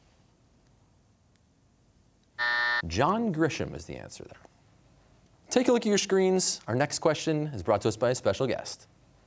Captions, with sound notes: (buzzer) John Grisham is the answer there. Take a look at your screens. Our next question is brought to us by a special guest.